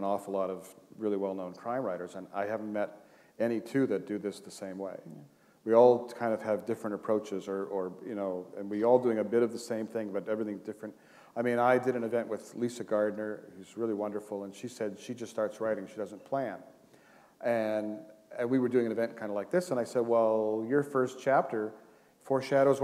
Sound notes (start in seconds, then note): none